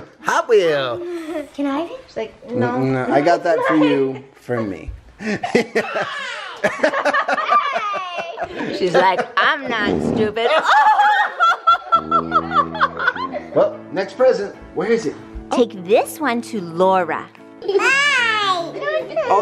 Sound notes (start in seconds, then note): 5.7 laughing; 9.7 farting; 10.8 laughing